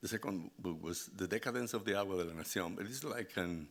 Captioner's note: speaking Spanish